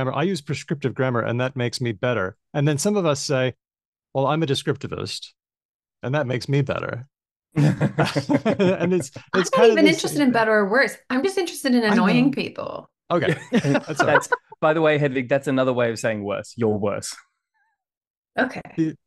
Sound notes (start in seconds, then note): 7.5 laughter; 13.2 laughs